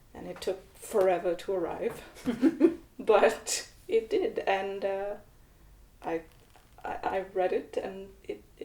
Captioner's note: laughter